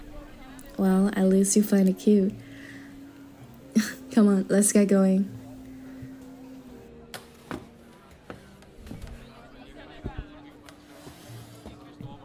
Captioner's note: chuckle